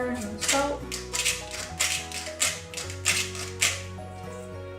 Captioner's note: salt mill grinding